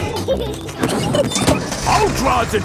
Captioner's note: peppa and george laughing